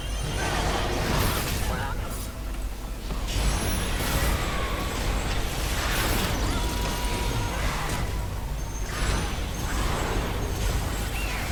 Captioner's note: fighting noises